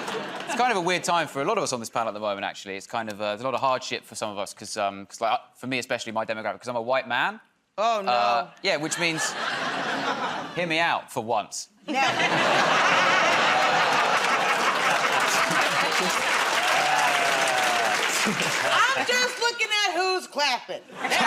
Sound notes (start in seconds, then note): 0.0 laughter; 11.8 laughter; 15.4 laughter and applause